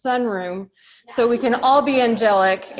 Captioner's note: laughs